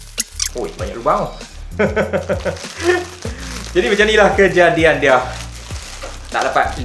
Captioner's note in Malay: ketawa